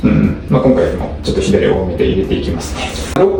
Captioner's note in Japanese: 咳払い